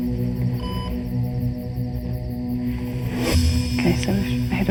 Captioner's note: device beeps